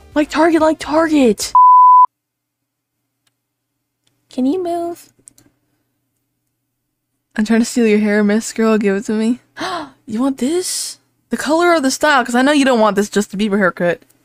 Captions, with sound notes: like Target, like Target! *high pitched* Can you move? *normal voice* 'I'm tryna steal your hair miss girl, give it to me' *gasp* you want this!?! the color or the style? cuz I know you don't want this Justin Bieber hair cut